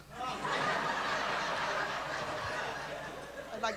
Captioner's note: laughter